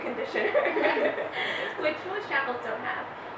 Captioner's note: laughing